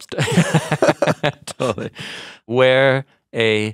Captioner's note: both laughing